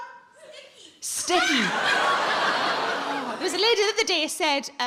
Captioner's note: audience laughing